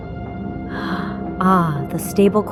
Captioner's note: gasps